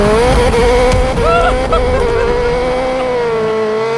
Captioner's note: laughing